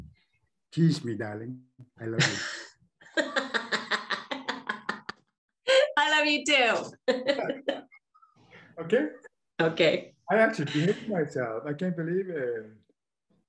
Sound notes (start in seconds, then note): 3.9 laughs